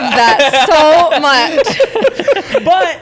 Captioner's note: laughter